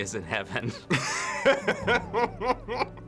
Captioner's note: laughing